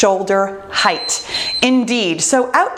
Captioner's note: bell dinging